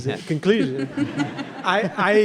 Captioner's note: audience laughing